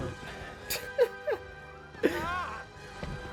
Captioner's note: laughs